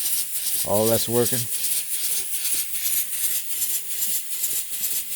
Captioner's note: steam engine whooshing